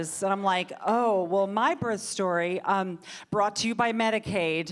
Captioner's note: none